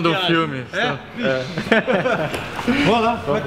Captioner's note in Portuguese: risos